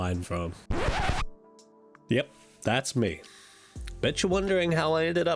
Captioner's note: record scratch